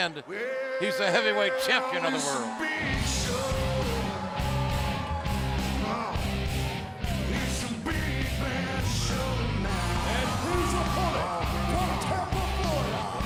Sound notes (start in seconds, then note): 4.7 crowd cheering